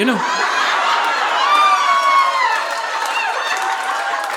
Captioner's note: audience laughing